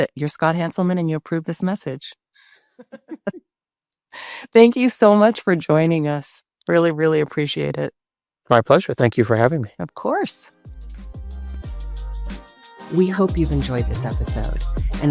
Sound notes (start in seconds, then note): 2.8 both laughing; 10.5 bright music